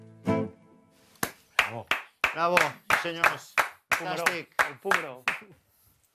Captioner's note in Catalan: aplaudiments